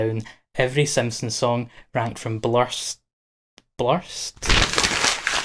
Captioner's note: scrumple